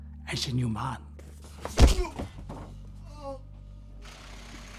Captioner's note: grunts, groans